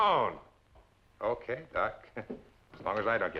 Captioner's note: chuckles